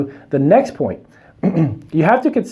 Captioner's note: clears throat